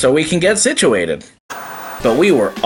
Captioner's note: TV Static